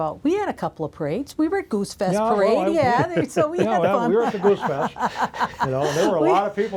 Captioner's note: laughs